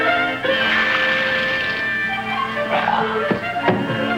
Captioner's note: comedic orchestral music; water splashing; Danny groaning; comedic orchestral music